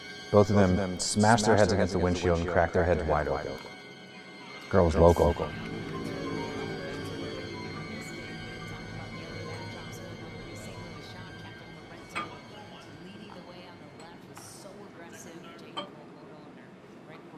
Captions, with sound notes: - Both of them smashed their heads against the windshield and cracked their heads wide open. Girl's local. (dramatic music) (TV quietly prattling)